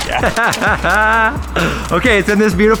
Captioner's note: laughing; laughs